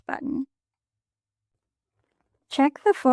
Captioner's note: pause